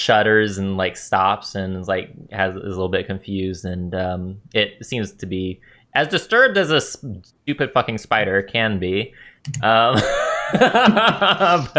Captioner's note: laughter